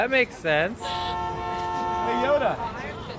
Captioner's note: honk